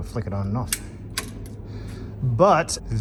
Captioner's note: switch clicks on and off